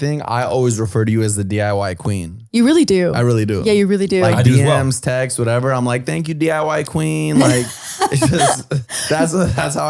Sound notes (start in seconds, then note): 7.3 laughs